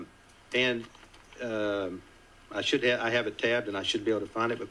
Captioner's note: none